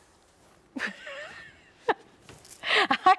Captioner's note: chuckles